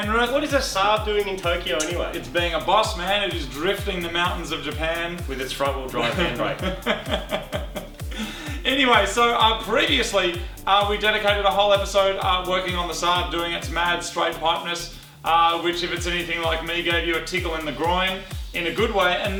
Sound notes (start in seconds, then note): 5.9 laughs